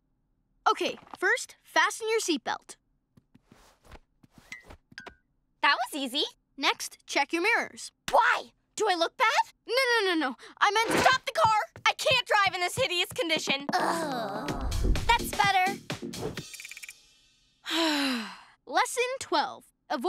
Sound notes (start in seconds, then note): 13.8 all groan; 17.7 sighs